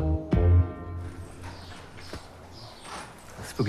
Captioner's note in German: Vogelgezwitscher